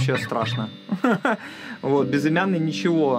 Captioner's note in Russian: смеется